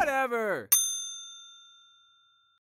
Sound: ding!

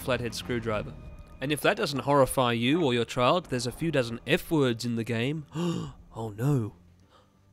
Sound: gasp

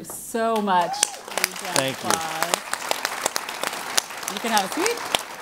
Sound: applause

